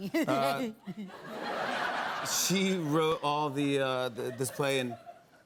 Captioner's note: laughter